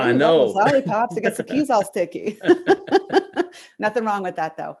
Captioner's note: chuckle